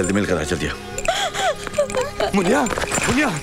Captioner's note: Crying